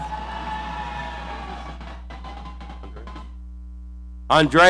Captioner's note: audience cheering